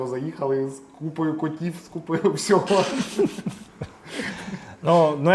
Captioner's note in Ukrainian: сміх